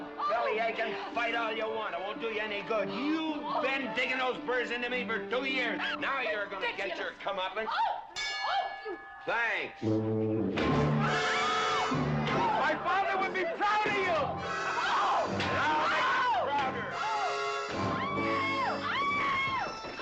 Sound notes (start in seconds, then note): 9.1 clanks; 11.0 screaming; 11.0 exclaims